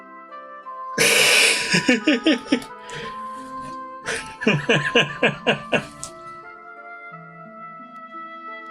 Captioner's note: laughs yawning